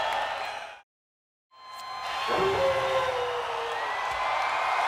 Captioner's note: crowd cheering